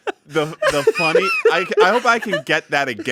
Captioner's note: laughs